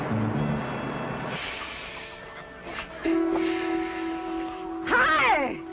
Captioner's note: truck hisses and stops